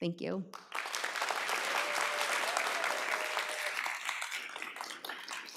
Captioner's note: audience applauds